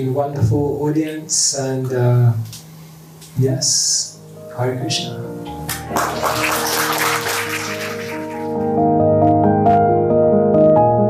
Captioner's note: applause